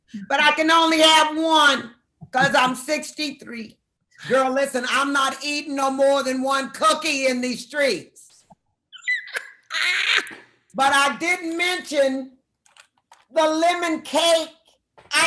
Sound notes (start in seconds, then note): 9.0 laughs